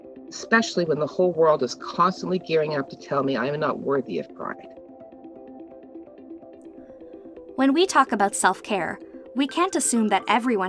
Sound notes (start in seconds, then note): 7.4 voice-over